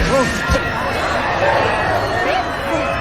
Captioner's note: gasp very loudly